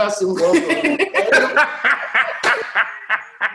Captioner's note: laughs